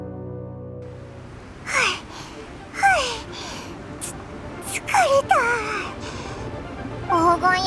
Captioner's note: panting